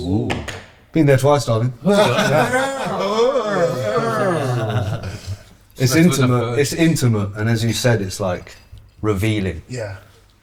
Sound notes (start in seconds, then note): 1.8 group Laughter